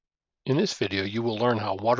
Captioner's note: voiceover